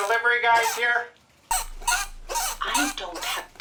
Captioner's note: squeaking wheel